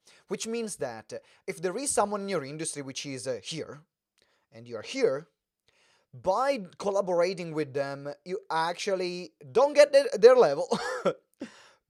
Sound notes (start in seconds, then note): 10.5 laughs